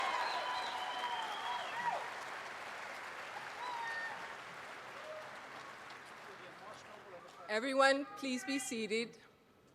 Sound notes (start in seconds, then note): 0.0 applause and cheering